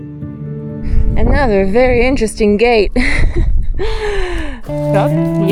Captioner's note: chuckles; jovial music